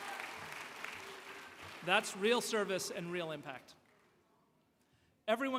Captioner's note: applause